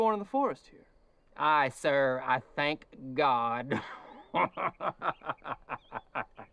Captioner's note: laughing